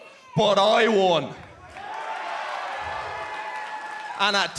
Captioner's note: cheers and applause